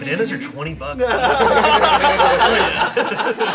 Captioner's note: everyone laughs